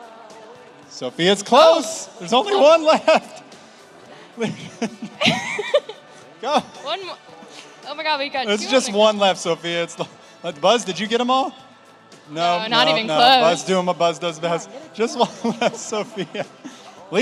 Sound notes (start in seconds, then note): 4.1 laugh